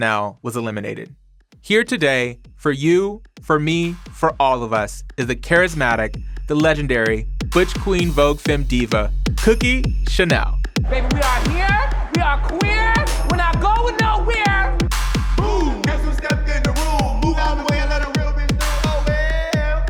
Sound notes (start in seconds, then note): 14.7 chanting